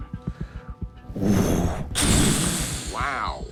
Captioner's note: groans